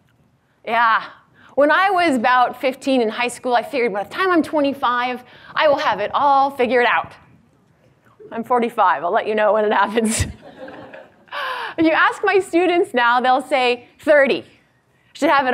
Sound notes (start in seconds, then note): 10.4 audience laughs